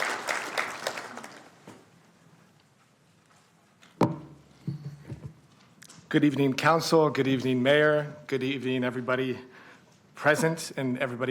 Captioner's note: applauding